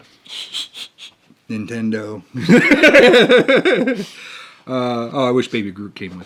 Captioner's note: laughs